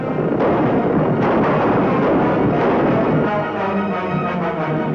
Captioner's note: gunshots